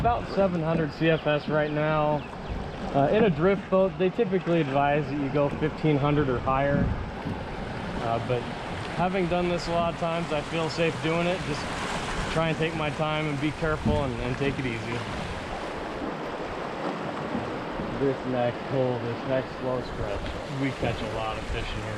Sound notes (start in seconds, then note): 15.2 water rushing